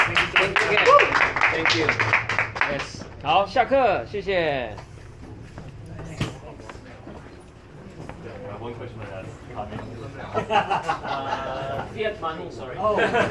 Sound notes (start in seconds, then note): 0.0 applause; 12.8 laughter